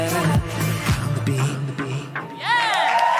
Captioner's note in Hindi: वाहवाही